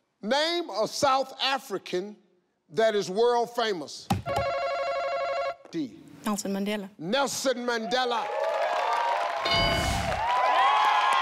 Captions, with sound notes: Name a South African that is world famous. (button buzzing) Dee. - Nelson Mandela. - Nelson Mandela. (audience cheering)